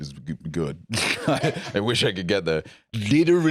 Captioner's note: laughs